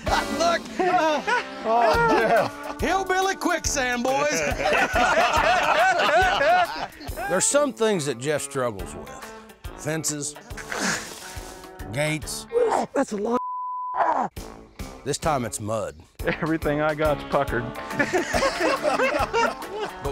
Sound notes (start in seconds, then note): 4.3 laughter; 10.1 grunts; 12.5 grunts; 17.9 laughter